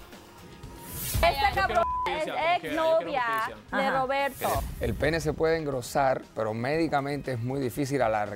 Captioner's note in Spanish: Bip